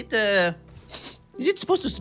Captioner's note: sniffs